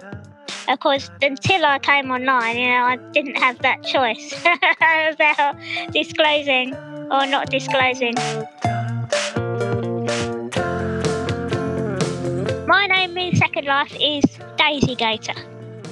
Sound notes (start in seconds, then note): 4.2 laughs